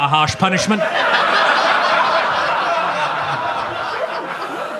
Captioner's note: audience laughs